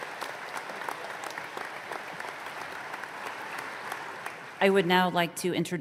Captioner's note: applause